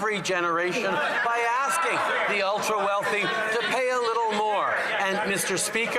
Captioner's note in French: voix de l'interprète